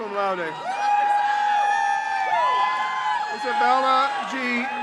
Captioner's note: crowd cheers